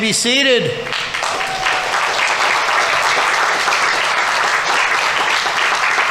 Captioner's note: audience members cheering; audience applauding